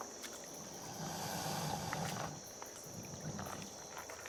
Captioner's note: crocodile hisses